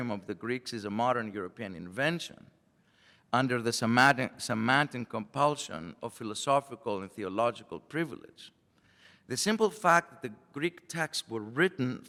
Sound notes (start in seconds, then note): none